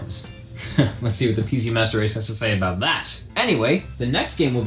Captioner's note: scoffs